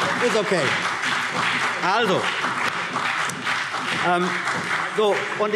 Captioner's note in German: Beifall CDU und BÜNDNIS 90/DIE GRÜNEN